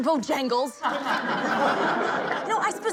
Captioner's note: crowd laughing